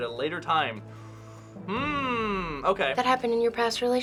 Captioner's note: deep inhale